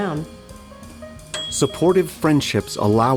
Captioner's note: bell dings